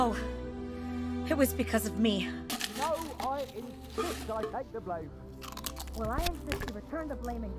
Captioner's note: Eating pringles